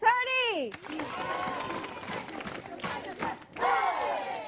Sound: applause

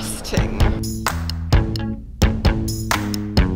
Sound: speaking Japanese

